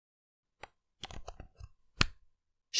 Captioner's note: cable connected SFX